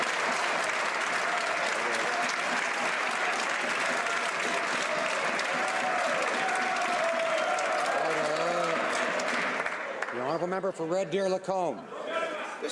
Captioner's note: some Applause